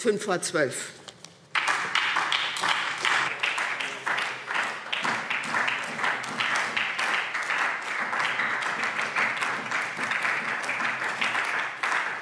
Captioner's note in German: Beifall SPD